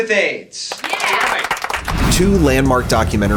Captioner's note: applause